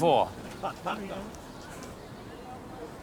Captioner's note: group chuckles